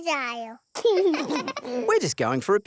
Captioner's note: both laugh